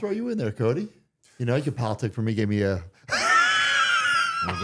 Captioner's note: laughing